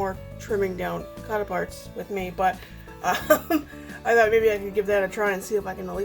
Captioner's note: laughs